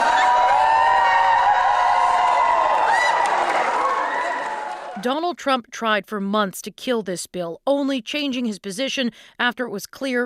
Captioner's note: cheers and Applause